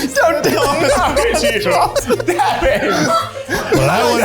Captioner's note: all laughing